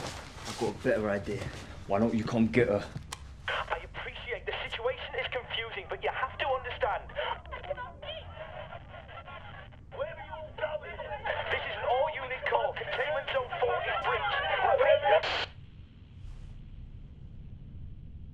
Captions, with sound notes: I'VE GOT A BETTER IDEA. WHY DON'T YOU COME GET HER? I APPRECIATE THE SITUATION IS CONFUSING. BUT YOU HAVE TO UNDERSTAND... [ANGRY VOICES IN BACKGROUND OVER WALKIE TALKIE] THIS IS AN ALL-UNIT CALL. CONTAINMENT ZONE FOUR IS BREACHED. [STATIC FROM WALKIE TALKIE]